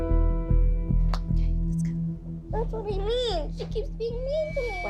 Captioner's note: whispering